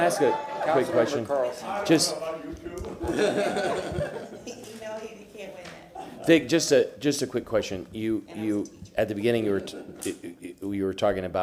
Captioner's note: laughter